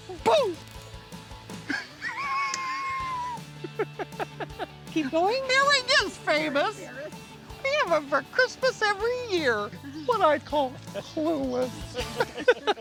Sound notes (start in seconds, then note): 1.7 laughs; 12.0 laughs